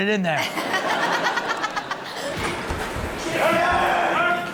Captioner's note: Chanel and audience laugh